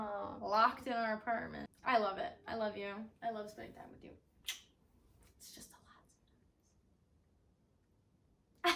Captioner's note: whispers